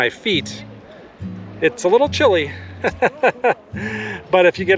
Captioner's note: laughter